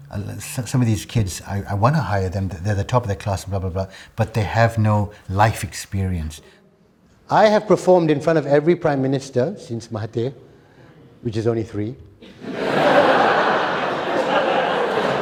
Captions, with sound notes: some of these kids, I want to hire them. They're the top of their class, blah, blah, blah, but they have no life experience. I have performed in front of every prime minister since my day, which is only three. [ Laughter ]